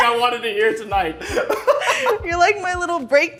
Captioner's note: laughing